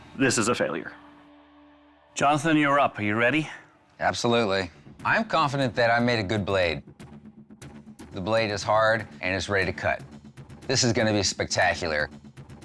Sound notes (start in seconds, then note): none